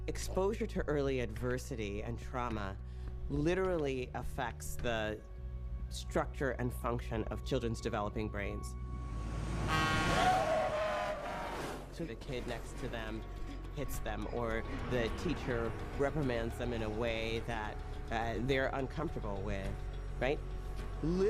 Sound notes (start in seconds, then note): 9.2 truck horn blaring